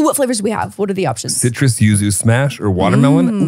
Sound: team laughs

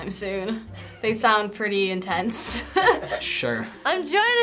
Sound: chuckles

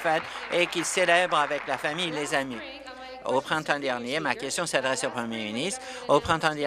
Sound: applause

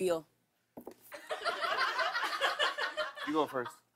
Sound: laughter

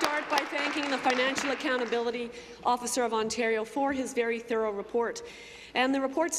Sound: applause

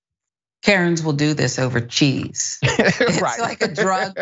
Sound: laugh

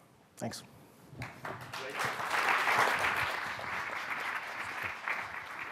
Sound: audience clapping loudly

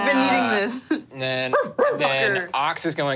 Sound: mimics dog barking

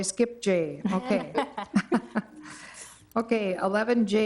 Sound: woman chuckling

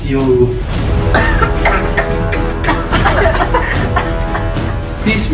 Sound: coughs

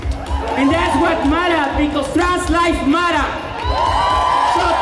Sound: cheers

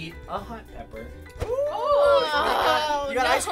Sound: groaning

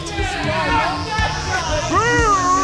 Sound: crowd heckles

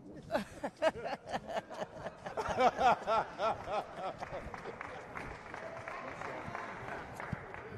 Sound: laughter

